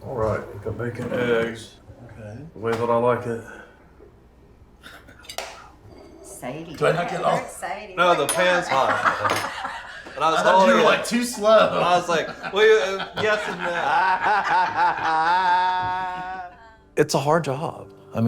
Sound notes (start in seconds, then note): 9.2 mom laughing; 14.2 group laughing